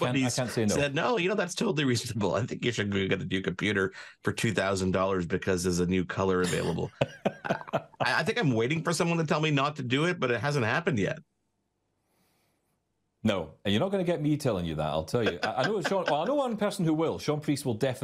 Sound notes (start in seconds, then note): 6.4 laughing